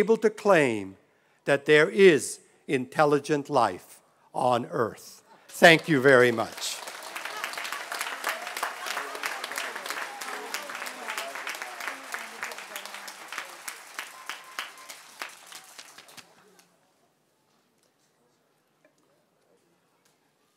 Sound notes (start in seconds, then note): 5.5 applause